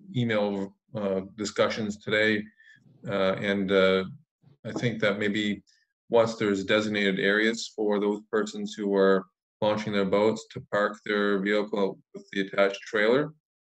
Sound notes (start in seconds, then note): none